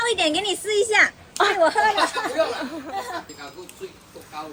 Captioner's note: laugh